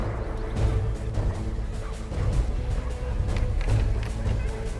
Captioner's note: dramatic music; dogs barking